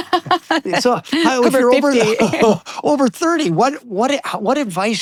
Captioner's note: laughing